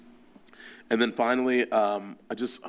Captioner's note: none